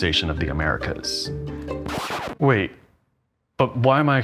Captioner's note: record scratching